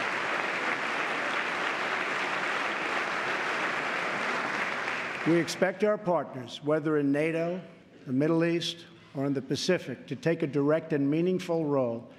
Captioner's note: applause